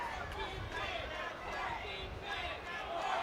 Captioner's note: crowd cheering